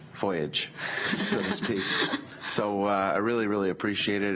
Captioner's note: group laughs